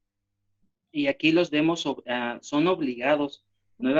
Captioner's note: speaking spanish